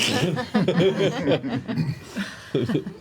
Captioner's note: laughter